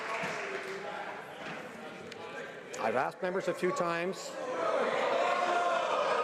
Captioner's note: some Applause